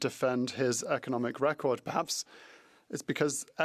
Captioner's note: speaking French